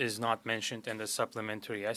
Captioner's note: speaking French